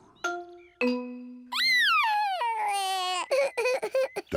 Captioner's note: sobbing